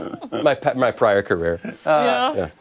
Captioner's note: laughter